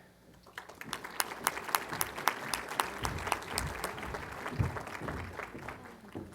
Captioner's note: applause